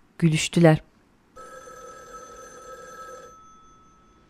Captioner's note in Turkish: Telefon zili sesi